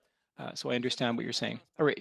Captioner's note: speaking French